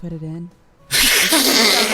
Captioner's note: cry; wheezes loudly with laughter